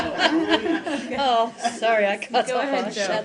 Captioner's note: laughter